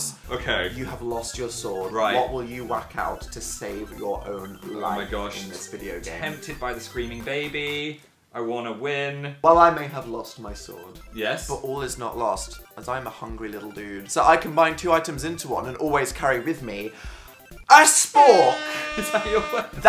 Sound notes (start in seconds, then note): 16.9 inhale; 18.1 airhorn sound effect; 18.7 laughing